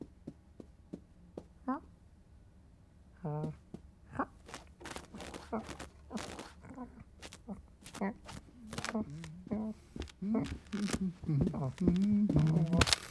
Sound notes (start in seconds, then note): 4.1 scratching sound; 7.8 footsteps